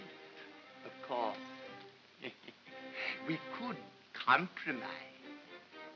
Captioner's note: chuckles